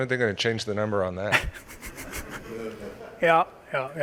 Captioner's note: l aughter